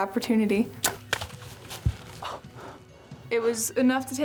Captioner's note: bowstring thuds